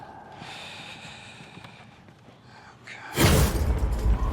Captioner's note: sighs; suspenseful